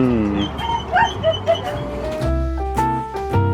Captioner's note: Brutus whines; piano music continues